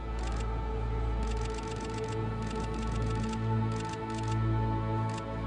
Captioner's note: camera shutter clicks; suspenseful music